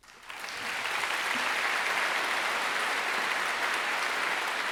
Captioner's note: audience clapping